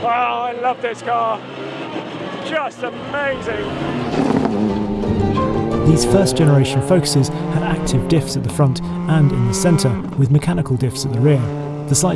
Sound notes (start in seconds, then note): 3.4 upbeat music; 3.6 engine revving